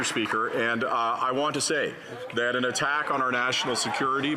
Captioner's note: some Applause